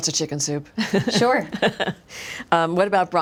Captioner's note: laughs